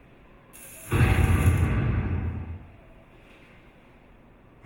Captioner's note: loud crash echoes